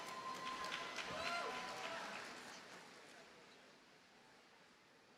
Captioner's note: audience cheers and applauds